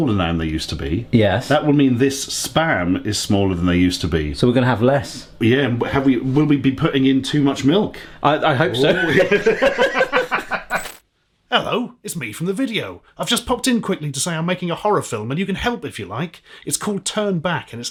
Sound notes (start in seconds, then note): 9.0 both laughing; 10.6 static crackling